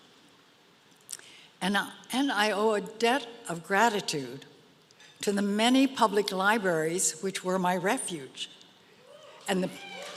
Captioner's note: applause